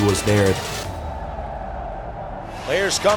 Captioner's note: crowd cheers